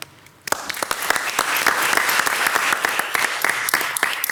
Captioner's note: audience clapping